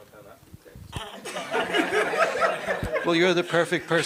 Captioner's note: laughter